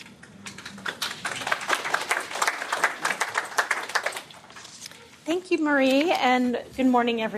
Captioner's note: �applause�